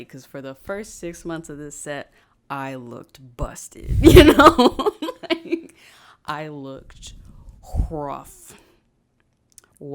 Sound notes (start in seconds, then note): 4.0 laughs